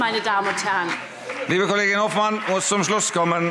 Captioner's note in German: Beifall SPD und BÜNDNIS 90/DIE GRÜNEN